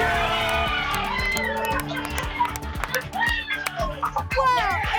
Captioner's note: applause and cheering